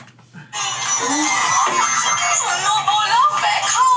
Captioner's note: TV blaring